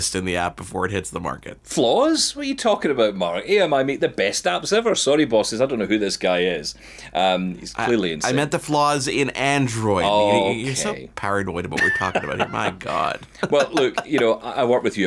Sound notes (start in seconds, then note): 11.7 laughing